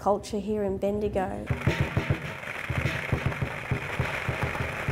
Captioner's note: fireworks crackle